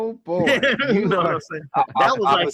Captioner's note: laughing